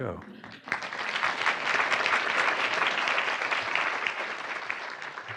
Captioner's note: audience applauding